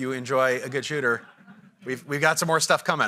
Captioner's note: audience laughing